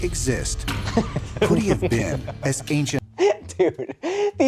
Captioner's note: drunk giggling